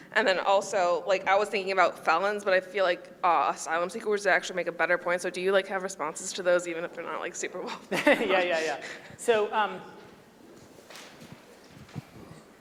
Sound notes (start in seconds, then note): 7.7 laughing; 7.7 chuckling